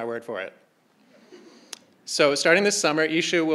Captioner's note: crowd laughing